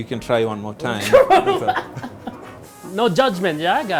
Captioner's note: laughing